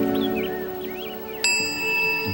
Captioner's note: bell rings